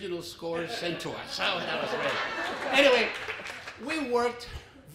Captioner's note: laughter